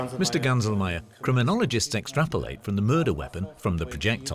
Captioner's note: in German